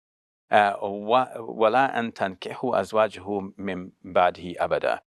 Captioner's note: speaking Arabic